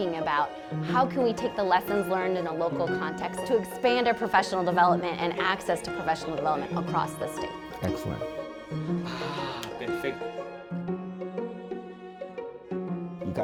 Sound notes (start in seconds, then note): 8.8 teacher speaking Spanish; 11.4 gentle music continues